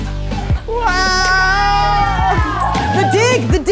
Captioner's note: crew cheering